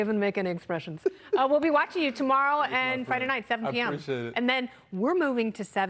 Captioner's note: laughter